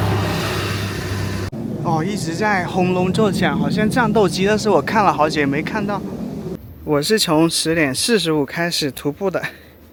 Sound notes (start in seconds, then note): 1.6 roaring sound; 3.6 the sound of the cable car